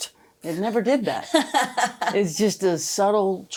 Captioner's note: laughing